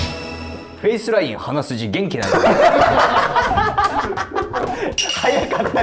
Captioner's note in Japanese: 一同・スタッフ：笑い